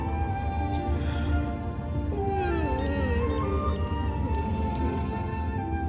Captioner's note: yawning